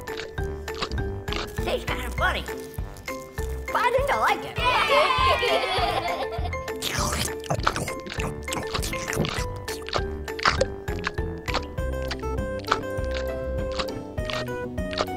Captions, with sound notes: Tastes kind of funny. But I think I like it. (children cheer) (chewing) (chewing)